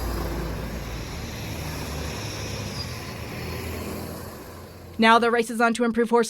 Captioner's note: sounds of automobiles passing